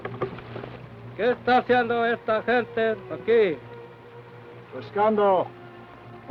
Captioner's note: Chief speaks foreign language; speaks foreign language